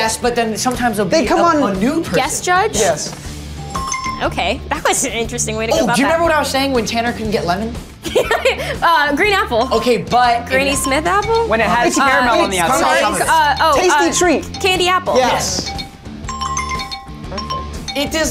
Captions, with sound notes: - Yes, but then sometimes there'll be a new person- - Guest judge? - Yes. (app chimes) - Okay, that was an interesting way to go about that. - Oh, do you remember what I was saying when Tanner couldn't get lemon? - (laughs) Green apple. - Okay, but- (app ticking) - Granny Smith apple? - When it has caramel on the outside. - Tasty treat! - Candy apple. - Yes! (app chimes) - Perfect.